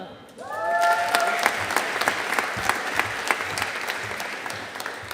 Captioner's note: audience applauding